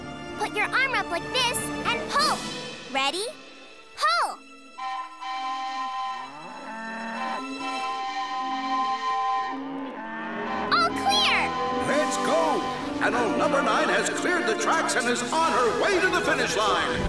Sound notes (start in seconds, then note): 4.7 horn blowing